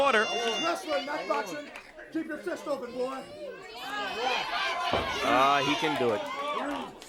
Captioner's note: crowd chatter